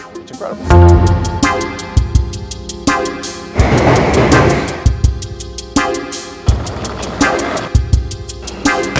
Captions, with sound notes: It's incredible. (upbeat inquisitive music) (train rustling) (skateboards rattling)